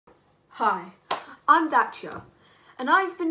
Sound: clap

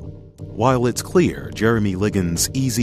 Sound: voiceover

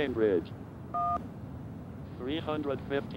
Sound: touch tone

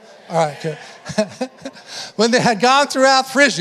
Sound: congregation affirming

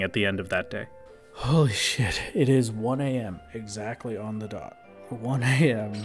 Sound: slurred

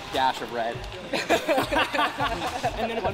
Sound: laughter

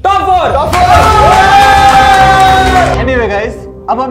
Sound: audible Cheer

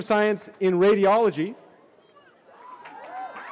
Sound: cheering

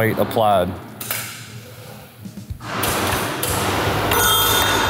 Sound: metal clanking

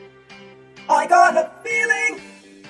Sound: heavily warped

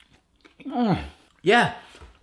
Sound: groans

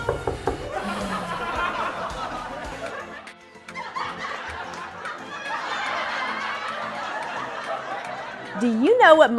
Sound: knocking on door; studio audience laughter

